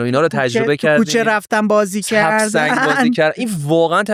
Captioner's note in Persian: خنده